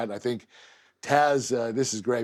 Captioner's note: none